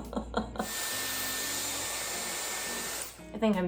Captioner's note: crying laugh; hairdryer whirring